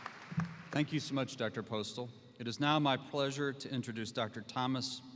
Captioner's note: applause